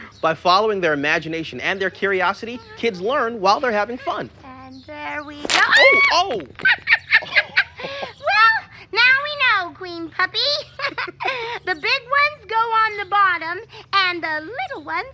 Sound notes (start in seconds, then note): 5.5 screams; 6.4 both laugh